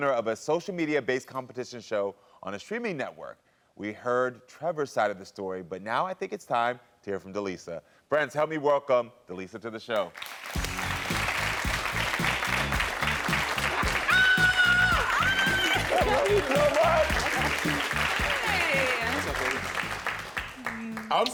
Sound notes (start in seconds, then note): 10.2 audience applauding; 10.2 instrumental music; 14.0 both screaming